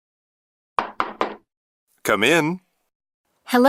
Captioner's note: door knocks